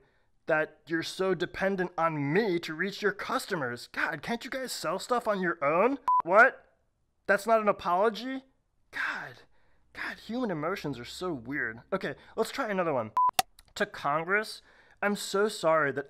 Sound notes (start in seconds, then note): 6.0 beep; 13.2 beep